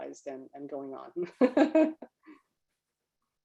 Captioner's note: laughs